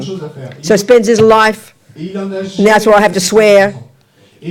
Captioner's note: speaking in French